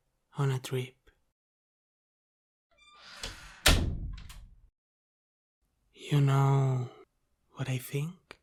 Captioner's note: sound of closing the door